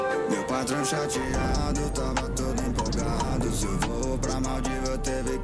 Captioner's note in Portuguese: chamas crepitando